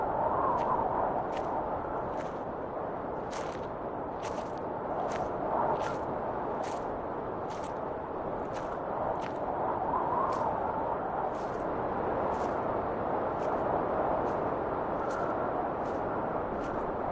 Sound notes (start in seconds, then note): 0.3 footsteps crunching; 7.2 footsteps crunching continues; 12.3 wind whistling continues